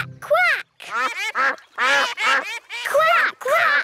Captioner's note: quacking